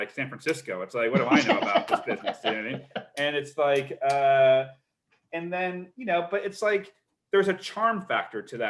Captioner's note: laughs